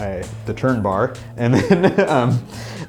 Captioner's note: laughing